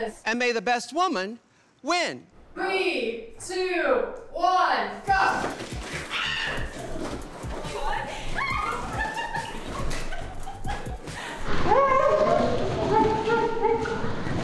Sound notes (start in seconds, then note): 6.1 screams; 6.5 group laughing